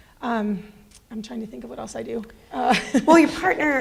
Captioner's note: laughs